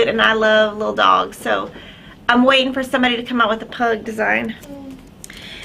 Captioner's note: none